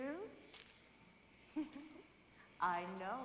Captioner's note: fiona laughs